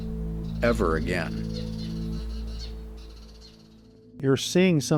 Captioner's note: birds chirping